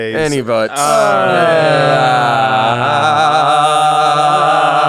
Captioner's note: group chanting